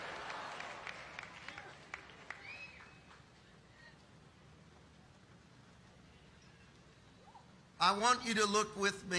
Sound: audience applauding

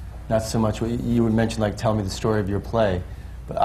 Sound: none

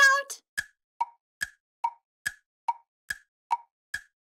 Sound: clock ticking

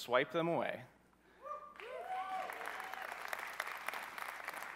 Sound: cheering

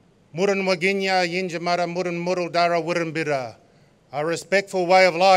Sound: non-english speech

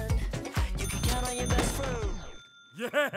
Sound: bell rings

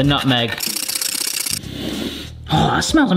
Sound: nutmeg rasps; sniffs

